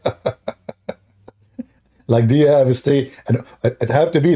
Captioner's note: Ketawa